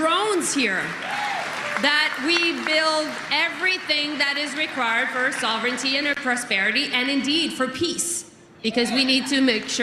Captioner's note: cheering and Applause